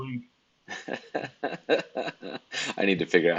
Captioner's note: laughs